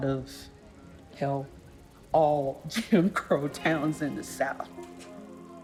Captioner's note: laughs